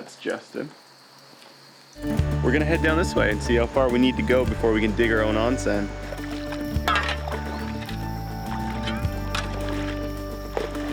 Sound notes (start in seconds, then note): 6.3 clatter